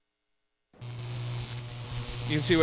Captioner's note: electricity Buzzing